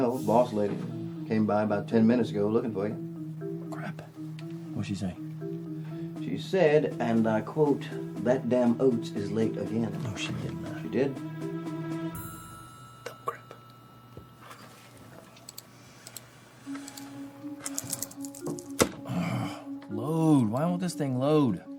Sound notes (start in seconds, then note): 15.9 mouse clicking